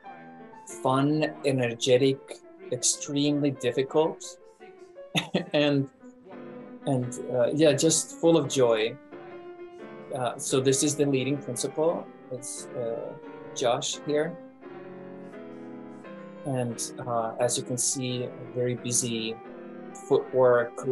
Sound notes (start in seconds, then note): 5.1 chuckles